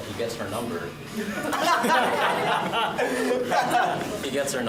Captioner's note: laughter